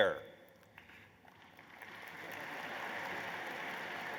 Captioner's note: applause